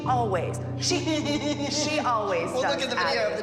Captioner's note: laughs